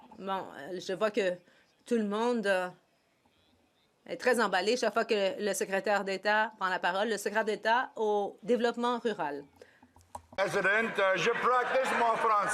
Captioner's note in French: voix de l'interprète